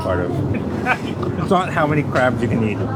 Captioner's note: laughs